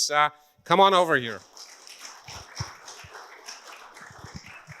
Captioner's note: audience claps